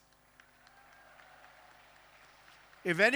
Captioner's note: applause